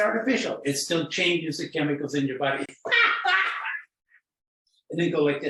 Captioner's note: laughing